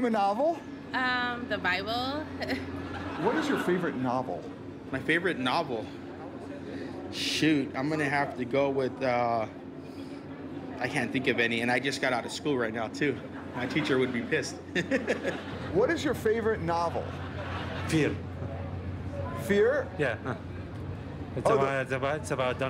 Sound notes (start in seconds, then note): 2.4 laughter